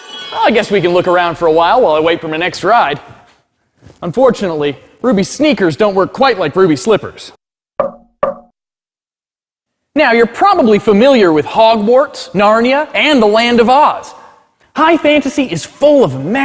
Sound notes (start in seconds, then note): 7.8 knocking